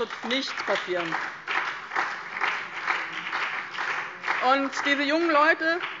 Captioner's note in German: Beifall BÜNDNIS 90/DIE GRÜNEN und vereinzelt SPD